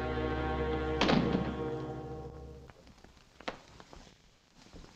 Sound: door thuds shut

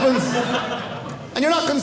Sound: audience laughing

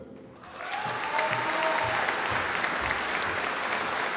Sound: audience applauding

